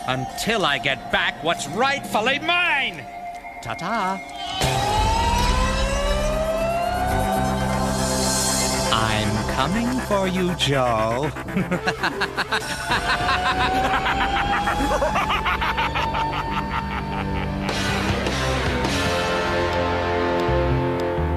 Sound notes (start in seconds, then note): 5.0 yelling; 12.1 wicked laughter